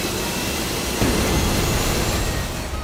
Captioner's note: boom!